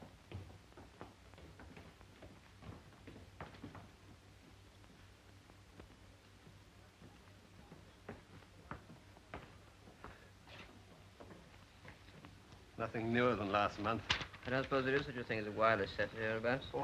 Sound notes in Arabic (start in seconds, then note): 0.0 خطوات الرجال على الدرج; 6.8 خطوات على الدرج